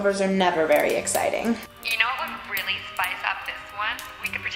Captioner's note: Cynthia on speakerphone